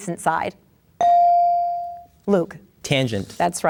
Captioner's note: bell dings